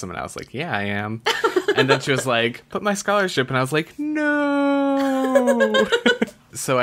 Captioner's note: laughs